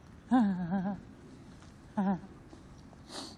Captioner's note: gasping